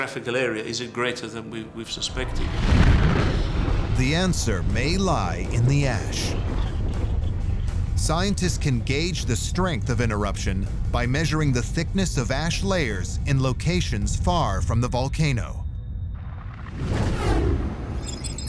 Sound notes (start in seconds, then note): 2.2 explosions; 2.3 deep rumble; 15.8 electronic whirring; 16.1 whooshing